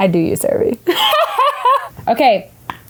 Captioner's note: laughs